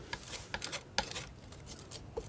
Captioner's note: scratching